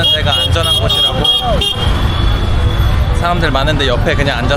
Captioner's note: honk stops